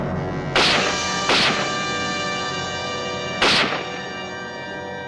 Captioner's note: gunshots